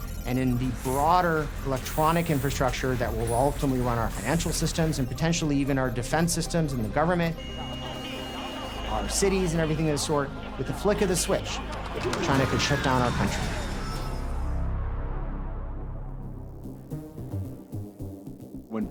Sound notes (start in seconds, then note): 7.7 static noise; 13.8 suspenseful music